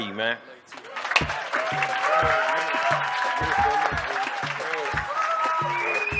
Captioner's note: applause